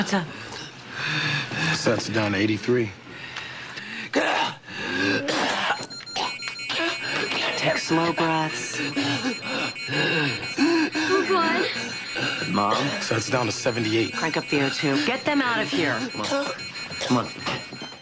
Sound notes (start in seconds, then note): 0.1 wheezing; 3.6 coughing